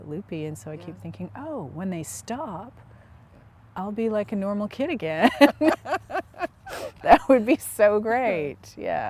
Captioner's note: laughter